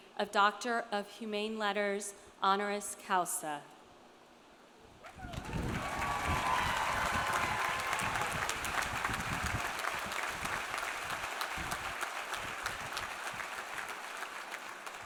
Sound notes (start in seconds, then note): 5.1 audience cheering; 5.2 audience applauding